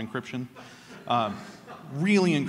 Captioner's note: laughter